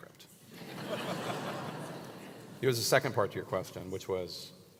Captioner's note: laugh